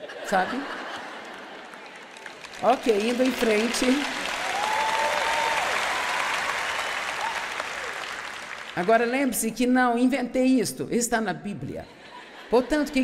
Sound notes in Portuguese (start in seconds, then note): 0.0 audiência ri; 5.4 audiência se alegra